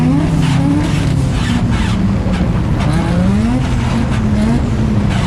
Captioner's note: engine squealing and sputtering